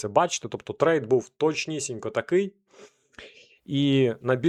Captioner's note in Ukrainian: сопіння